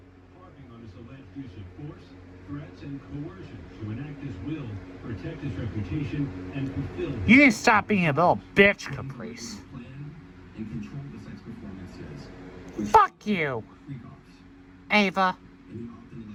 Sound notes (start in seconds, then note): 0.2 continues playing; 6.7 slurred